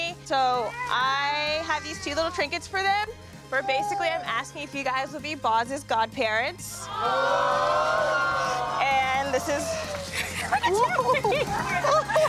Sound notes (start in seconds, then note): 6.8 crowd exclaims; 9.3 laughs; 12.0 all laughing and exclaiming